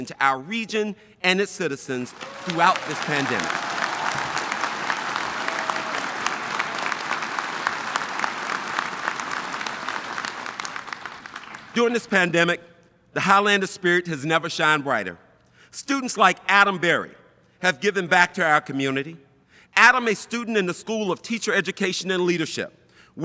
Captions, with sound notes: to our region and its citizens throughout this pandemic. (audience applauding and cheering) During this pandemic, the Highlander spirit has never shined brighter. Students like Adam Berry, have given back to our community. Adam, a student in the School of Teacher Education and Leadership,